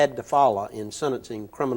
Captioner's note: none